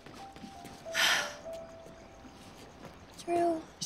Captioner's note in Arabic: تنهد